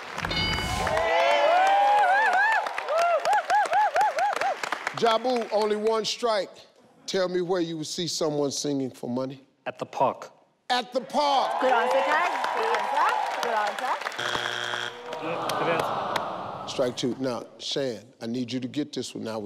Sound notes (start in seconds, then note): 0.1 and audience cheering; 0.1 audience cheering; 0.2 bell sound; 14.1 buzz sound